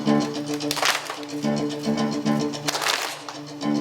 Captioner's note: choir clapping